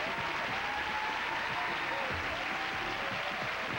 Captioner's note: loud cheers and applause